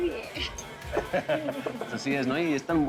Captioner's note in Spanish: Risas